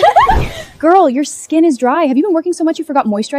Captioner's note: laughing